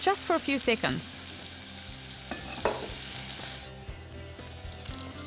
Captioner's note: ingredients sizzling